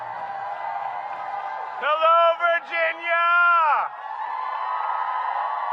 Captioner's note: applause